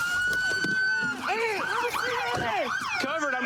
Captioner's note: shouting